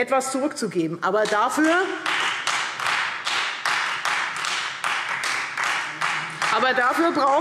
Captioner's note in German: Beifall Freie Demokraten